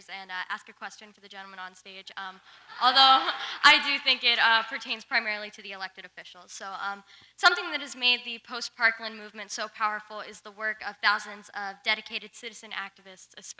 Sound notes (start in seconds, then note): 2.6 audience laughs